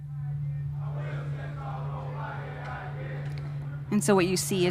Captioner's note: chatter